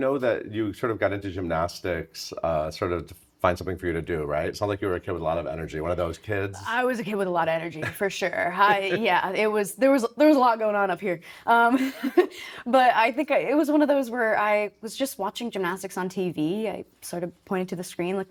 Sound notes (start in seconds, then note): 8.6 chuckling; 11.9 chuckling